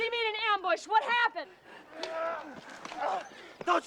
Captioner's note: groaning